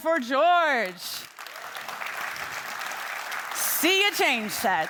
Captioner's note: attendees clapping